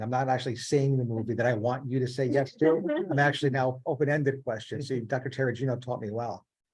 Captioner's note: laughing